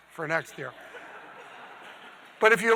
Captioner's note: audience laughing